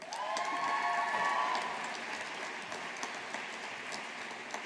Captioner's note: audience applauding